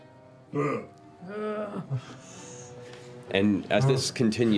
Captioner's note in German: grunzen